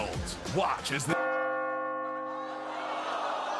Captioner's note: bell rings